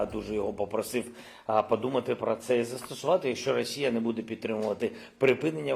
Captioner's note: speaking in foreign language